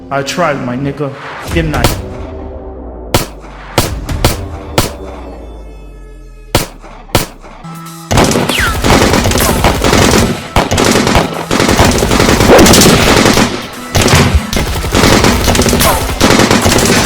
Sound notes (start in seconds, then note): 3.1 gun shoots; 8.5 guns shoot